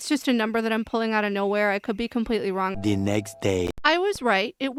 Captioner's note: french accented male narrator voice